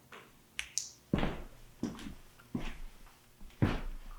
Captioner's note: flashlight clicks